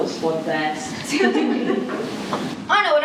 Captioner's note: laughing